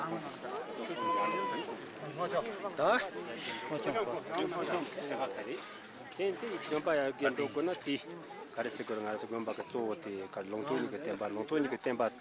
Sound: tibetan talking

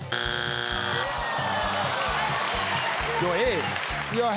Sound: buzzer bleating

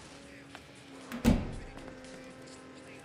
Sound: door closed

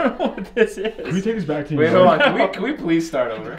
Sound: laughter

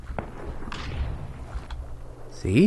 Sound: gunshot

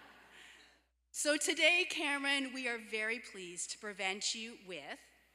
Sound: laughter

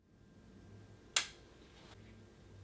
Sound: click

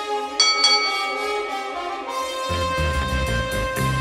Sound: bell rings

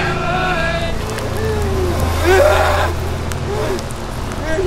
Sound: eerie voices

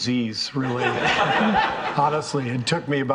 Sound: all laughing

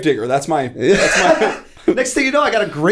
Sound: laughter

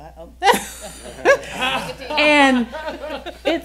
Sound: laughing

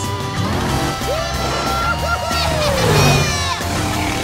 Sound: cheering

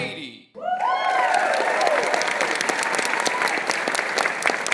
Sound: applause

